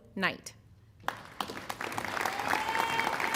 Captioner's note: applause